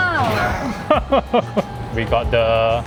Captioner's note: laughs